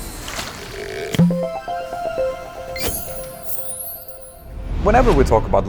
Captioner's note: playful chime